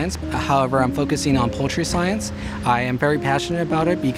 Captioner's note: none